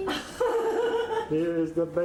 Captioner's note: laughs